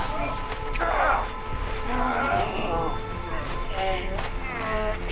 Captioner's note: grunting